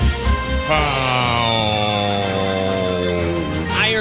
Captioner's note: howls